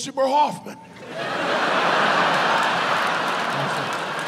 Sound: audience laughs

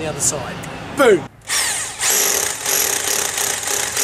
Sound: drill noises

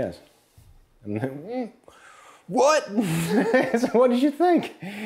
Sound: laughs

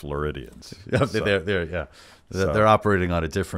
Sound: laughs

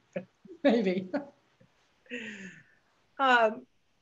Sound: laughs; chuckles

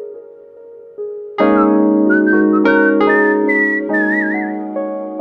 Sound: whistling

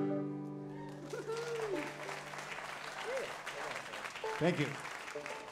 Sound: audience applauds

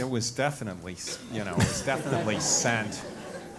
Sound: laugh

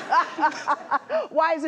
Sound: laughter

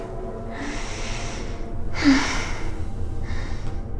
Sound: moaning

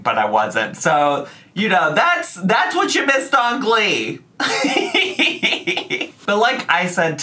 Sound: laughs

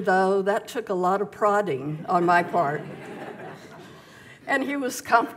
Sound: audience laughs

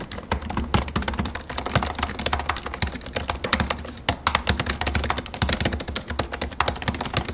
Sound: Typing sound : 15.4 inch MacBook Pro

